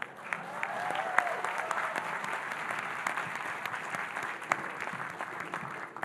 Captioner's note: audience cheering and applauding